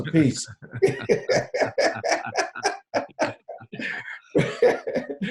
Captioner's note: laughing